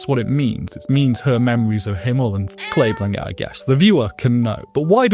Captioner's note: meow